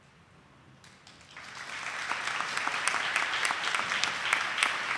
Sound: audience applauding

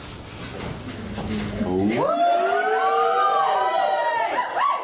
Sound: whoops of knowing recognition

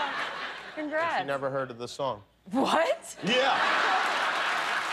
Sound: laughter

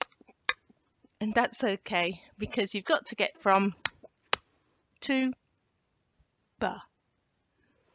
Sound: the actual letter sound

